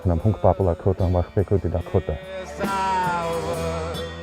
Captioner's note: foreign language